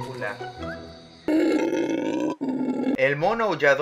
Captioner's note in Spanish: Rugido de mono aullador